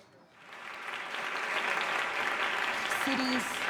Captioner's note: clapping